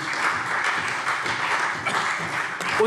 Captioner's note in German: Beifall CDU